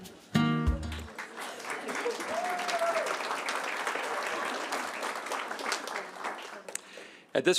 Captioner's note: applause